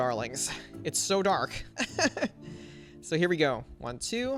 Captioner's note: laughs